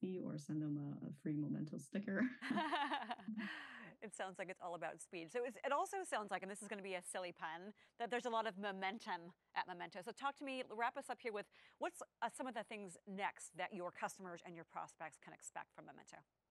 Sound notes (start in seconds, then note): 2.4 both laugh